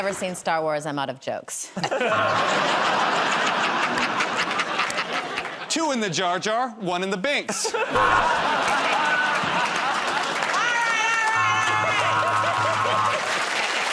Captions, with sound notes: -I've never seen "Star Wars", I'm out of jokes. [ Laughter ] -Two in the Jar Jar, one in the Binks. [ Laughter ] -All right, all right, all right. [ Laughter ]